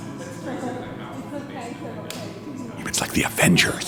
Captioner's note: people chattering